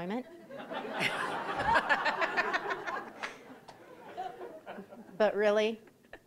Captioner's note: audience laughing